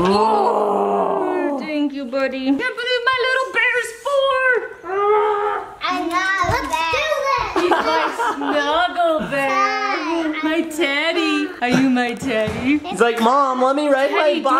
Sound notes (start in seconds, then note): 7.6 laughs